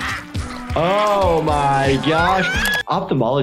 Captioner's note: Petunia screaming